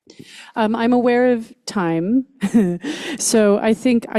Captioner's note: chuckles